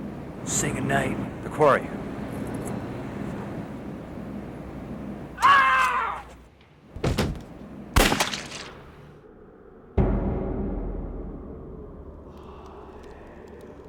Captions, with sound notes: Say good night. - The quarry. (Paul shouts) (gunshot bangs) (tense music)